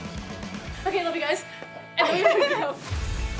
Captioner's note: laughter; upbeat music playing